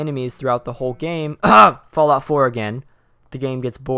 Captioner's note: coughs